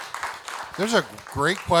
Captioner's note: audience applauding